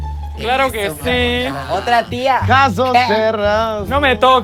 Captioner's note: cuban accent